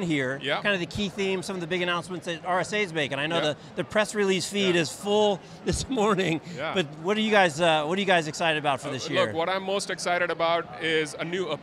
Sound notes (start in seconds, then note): 6.0 laughing